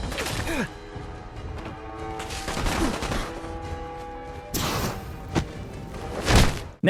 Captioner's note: player grunts; loud thump; loud thumping